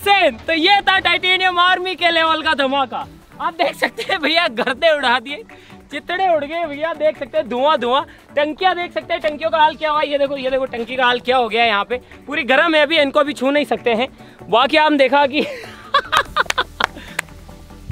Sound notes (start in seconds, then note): 15.5 laughs